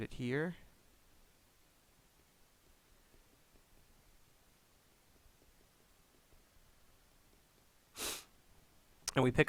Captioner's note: pause